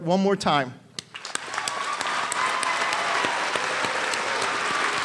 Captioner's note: applause and cheering